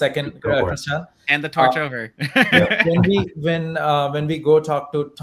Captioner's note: laughs